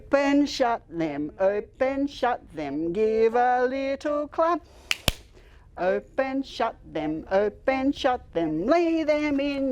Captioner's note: clap